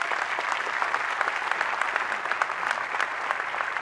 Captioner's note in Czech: potlesk